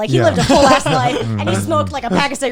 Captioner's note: guys laughing